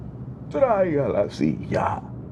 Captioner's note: speaking spanish